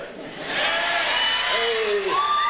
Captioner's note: audience cheers